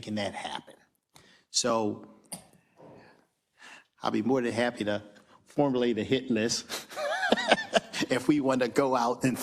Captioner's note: laugh